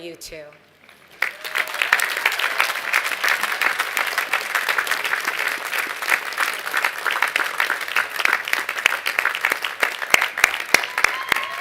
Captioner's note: applause